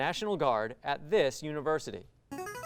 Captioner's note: ring-in sound